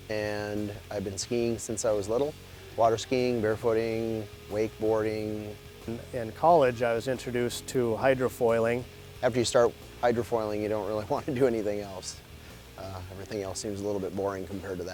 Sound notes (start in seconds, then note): 9.1 voiceover